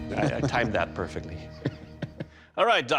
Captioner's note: laughs